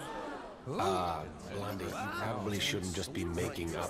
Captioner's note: crowd exclaiming